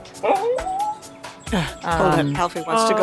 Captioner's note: dog moaning